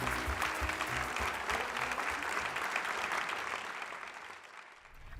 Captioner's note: applause